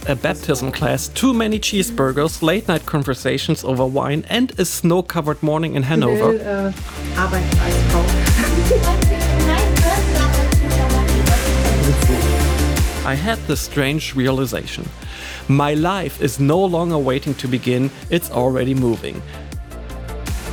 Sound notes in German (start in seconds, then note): 8.0 lacht; 9.5 Fröhliche Musik